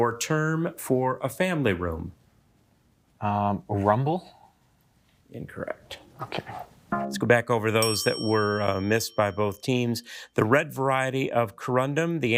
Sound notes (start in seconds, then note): 7.4 buzzer beeping; 7.8 bell ringing